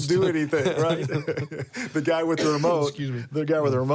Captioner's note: laughs